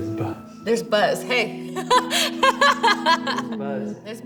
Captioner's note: laughs